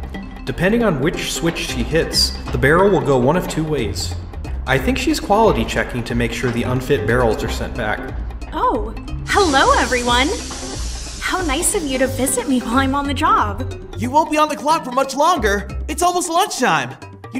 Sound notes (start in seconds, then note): 8.5 machine powering down